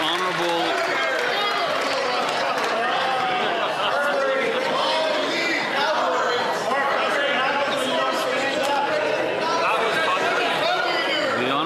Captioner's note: some Applause